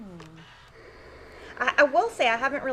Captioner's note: steam iron hissing